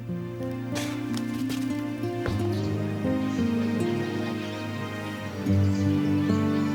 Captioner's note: sighs; slow soft music; birds chirping